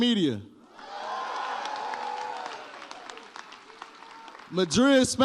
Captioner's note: audience cheers